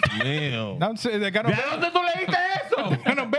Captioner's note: speaking Spanish